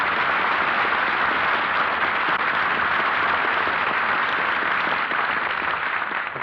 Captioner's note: applause